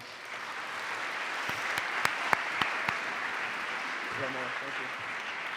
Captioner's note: applause